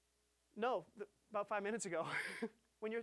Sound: chuckling

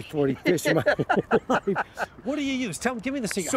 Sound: laughter

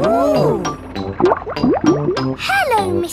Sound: bubbling

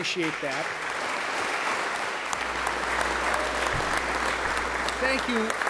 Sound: applause

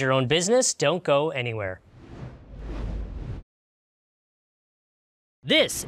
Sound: logo whooshes

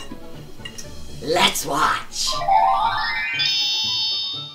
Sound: magic chime

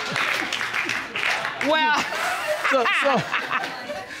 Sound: laughs

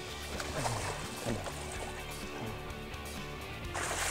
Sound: splashing

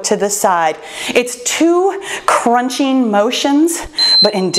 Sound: timer beeps

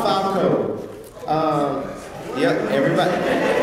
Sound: laugh

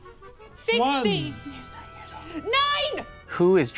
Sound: whispering

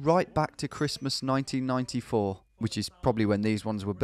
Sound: bell dinging

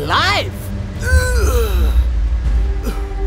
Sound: gasps

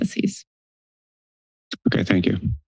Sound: silence

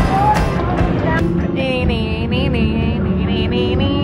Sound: humming

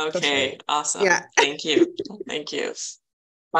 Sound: chuckling

